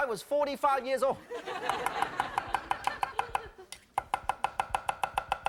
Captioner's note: audience laughing